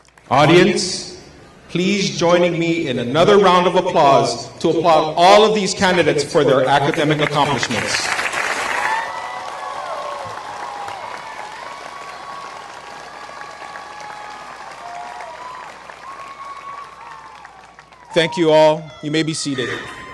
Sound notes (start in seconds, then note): 9.3 applause